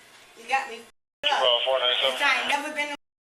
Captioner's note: radio chatter